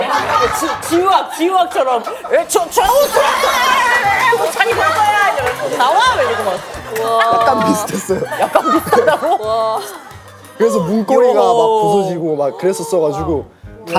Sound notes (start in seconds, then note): 6.9 coughs